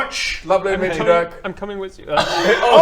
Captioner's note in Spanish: lloriqueando